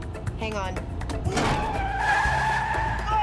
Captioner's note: tires screech